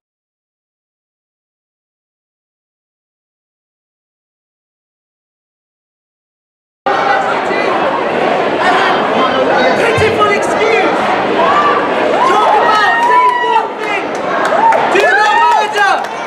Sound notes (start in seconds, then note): 6.8 crowd din, chanting, etc